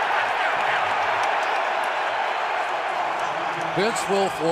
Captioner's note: cheering